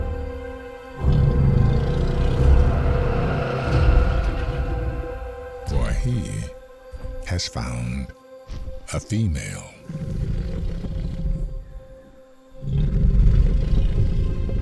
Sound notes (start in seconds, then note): 0.0 low growling; 9.8 soft growling